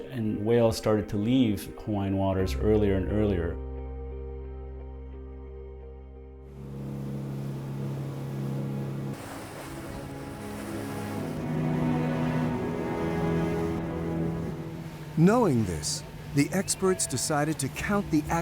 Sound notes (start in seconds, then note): 6.9 boat engine whirring; 11.2 majestic music